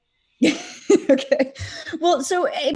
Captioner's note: laughs